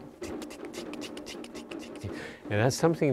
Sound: clicks rhythmically

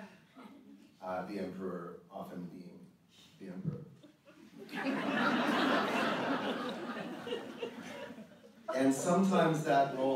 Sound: audience laughter

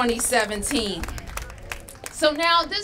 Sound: applause

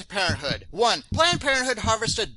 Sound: sound of a heart beat in background

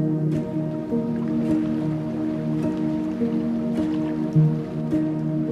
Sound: water trickling

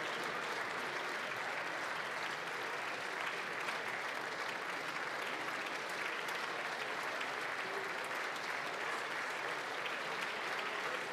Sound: applause

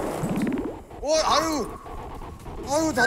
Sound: fire blasting

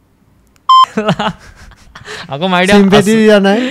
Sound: laughs

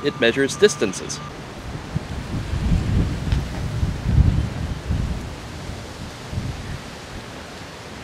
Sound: wind continues to blow and birds continue to chirp

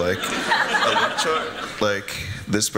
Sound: laughter

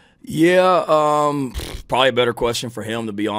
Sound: Shane smacks his lips

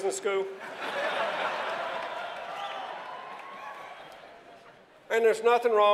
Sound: laughter

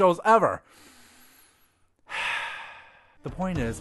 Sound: deep breath

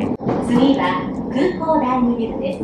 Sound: train annoucements in japanese

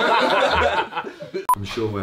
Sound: everyone laughing

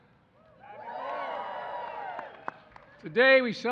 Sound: applause

